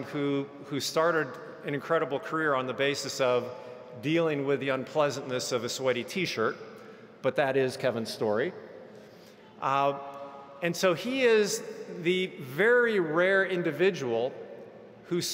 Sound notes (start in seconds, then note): none